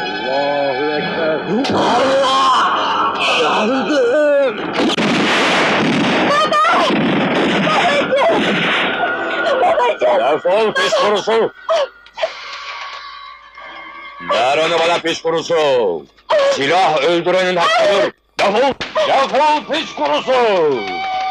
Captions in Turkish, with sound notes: Aaaahhh! [Silah sesleri] Baba! Babacım! Defol piç kurusu! Ver onu bana piç kurusu!